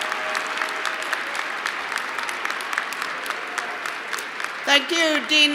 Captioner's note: cheers and applause